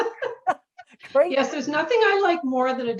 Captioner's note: chuckling